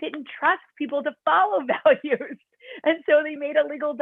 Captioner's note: laughter